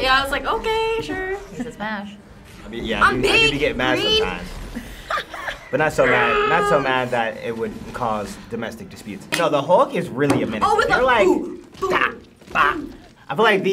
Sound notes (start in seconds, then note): 5.8 growls; 5.9 React laughs